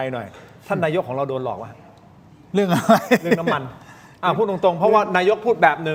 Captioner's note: laughter